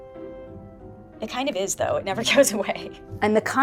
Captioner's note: laughing